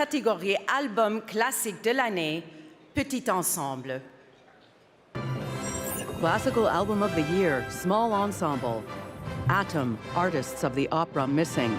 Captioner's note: speaking french